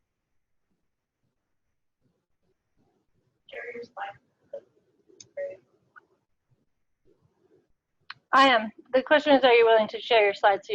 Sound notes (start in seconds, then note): 3.5 mic garbling